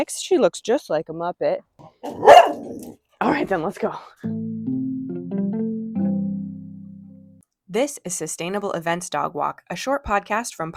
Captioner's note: dog bark